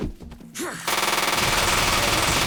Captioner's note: exclaims